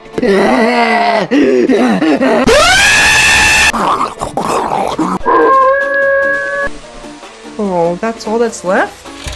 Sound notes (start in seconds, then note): 0.4 chaotic laughter; 2.4 psycho Generational Traumatic Scream; 3.7 obsessive Growling; 5.7 howling like a werewolf